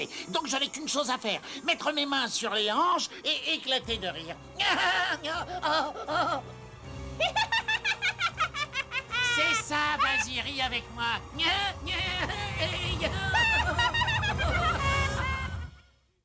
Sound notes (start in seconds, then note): 4.6 laughing; 9.8 laughing; 12.1 both laughing